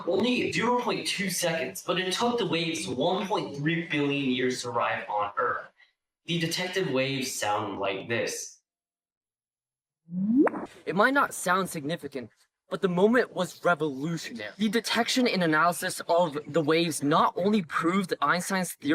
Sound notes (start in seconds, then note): 10.1 rising pitch followed by a pop